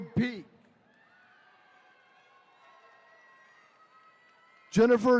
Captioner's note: attendees cheering